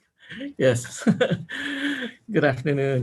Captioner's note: laughs